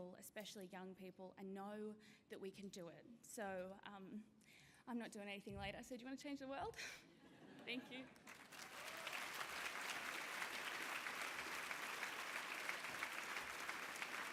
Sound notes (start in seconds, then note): 6.9 laughter; 8.1 applause